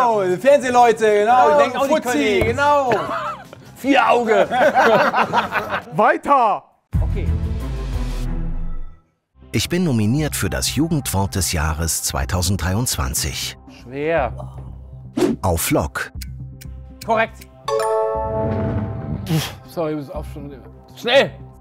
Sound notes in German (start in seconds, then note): 2.8 Lachen; 7.5 Spannende Klänge; 17.5 Klingeln